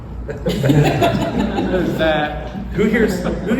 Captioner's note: laughter